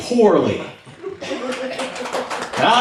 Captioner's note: now we have applause